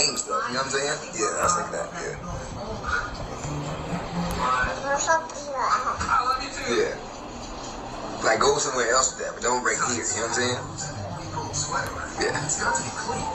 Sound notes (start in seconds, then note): 5.4 gestures towards the TV while babbling